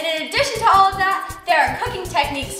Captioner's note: none